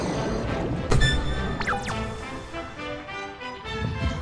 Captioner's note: dragon chirps